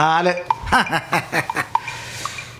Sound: laughs

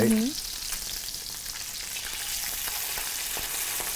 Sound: fish sizzling

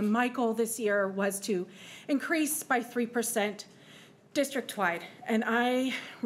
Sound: none

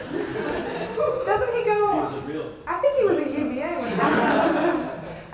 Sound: laughter; laughter

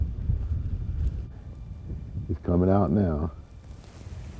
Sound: wind gusting

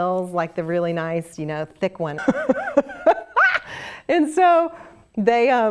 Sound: laugh

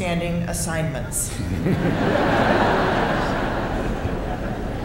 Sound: laughter

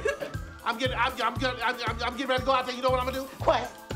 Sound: laughing; stuttering

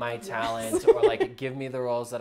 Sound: laughs

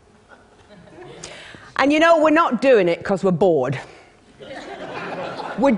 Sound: laughter; laughter

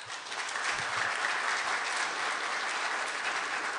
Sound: applause

